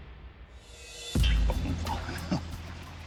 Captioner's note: chuckles